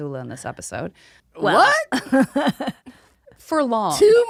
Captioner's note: laughing